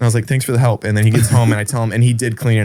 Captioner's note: laughs